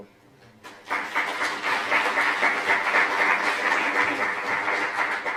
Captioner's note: applause